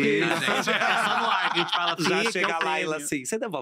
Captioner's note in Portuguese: risos